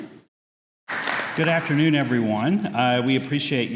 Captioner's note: audience applauds